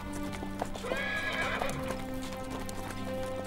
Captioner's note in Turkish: At kişniyor